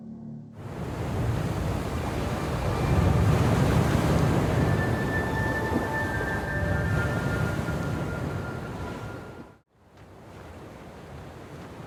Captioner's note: waves; peaceful music